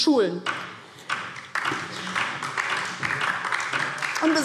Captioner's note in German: Beifall DIE LINKE